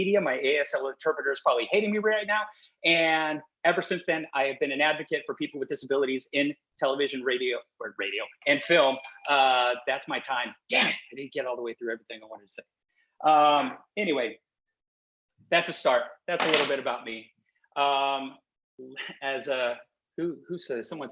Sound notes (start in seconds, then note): 8.8 Cory's phone chiming